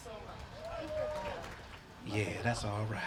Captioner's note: applause